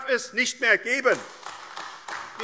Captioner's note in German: Beifall AfD